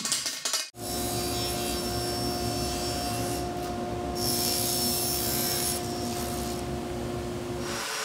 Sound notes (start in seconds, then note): 1.3 saw brattling